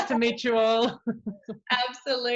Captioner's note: laughs; chuckles